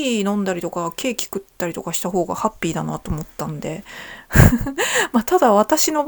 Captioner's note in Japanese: 笑い